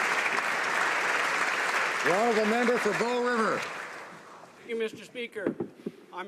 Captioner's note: applause